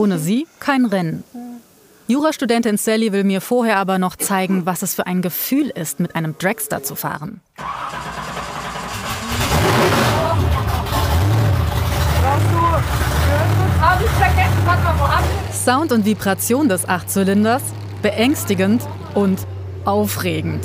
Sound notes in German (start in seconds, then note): 8.5 Dröhnender Motor